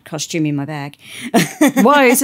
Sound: laughter

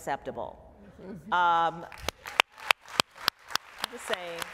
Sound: applause

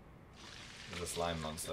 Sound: slime noises

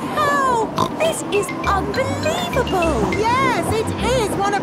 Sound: snorts

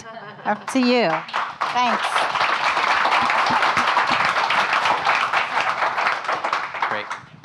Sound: audience applauding

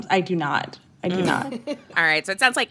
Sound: laughter

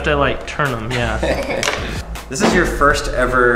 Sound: laughing

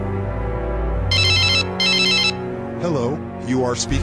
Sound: cell Phone Ringing

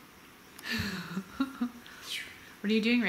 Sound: laughs

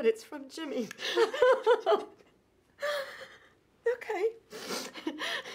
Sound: laughs

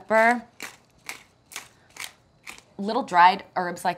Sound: grinding pepper

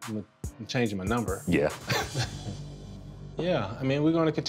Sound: chuckles

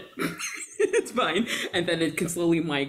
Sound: laughs

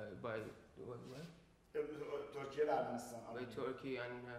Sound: speaking in farsi

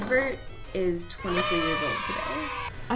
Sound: kids cheering

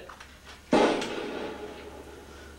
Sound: gunshot

